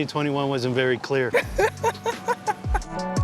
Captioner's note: laughs